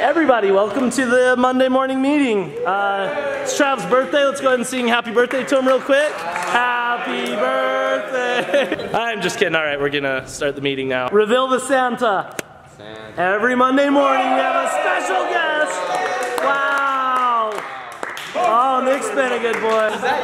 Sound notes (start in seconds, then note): 2.5 soft cheering; 13.7 cheering; 15.8 applause